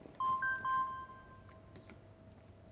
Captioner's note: phone ringing